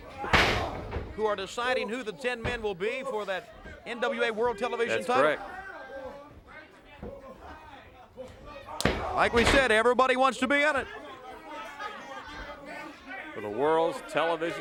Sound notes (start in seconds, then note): 8.4 crowd chatter